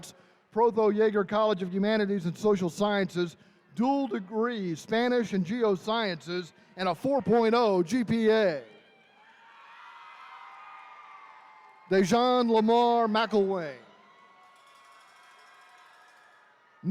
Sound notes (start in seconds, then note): 8.2 attendees cheering